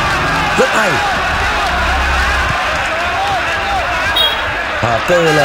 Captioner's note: clap